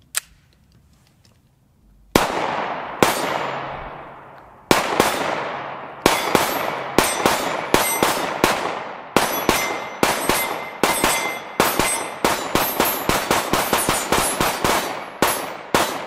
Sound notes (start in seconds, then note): 0.0 guns cock; 2.2 guns fire